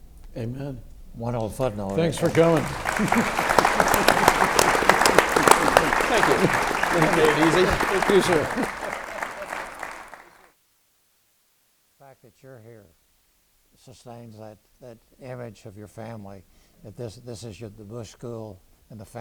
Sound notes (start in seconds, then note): 3.3 audience claps